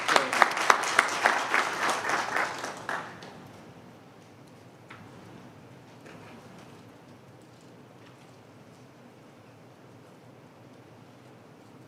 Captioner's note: applause